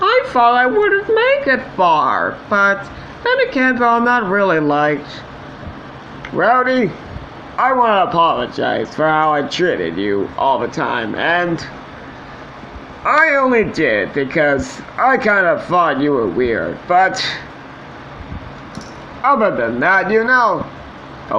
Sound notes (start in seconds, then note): none